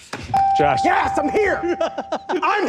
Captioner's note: ding; laughing